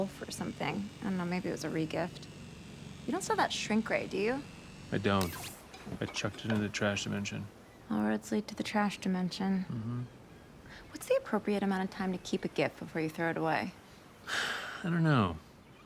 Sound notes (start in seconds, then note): 5.2 sword whirs; 14.2 sighs